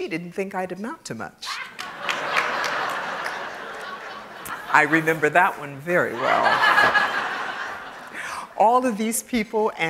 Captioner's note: laugh